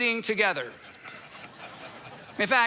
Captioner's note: congregation laughs